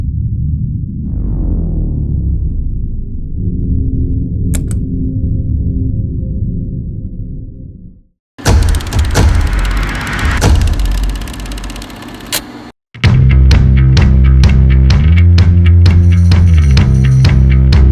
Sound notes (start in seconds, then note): 0.2 ominous music; 8.4 upbeat music; 8.7 car engine roaring